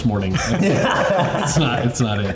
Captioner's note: all laughing